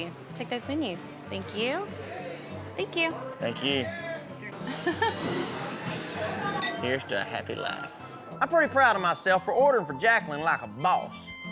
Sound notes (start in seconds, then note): 4.6 giggles; 5.6 glasses clink